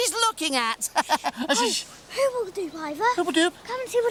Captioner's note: laughing